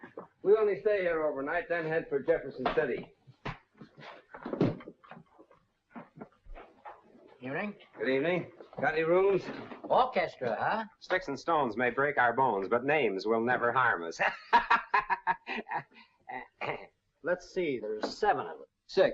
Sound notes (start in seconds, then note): 14.1 laughs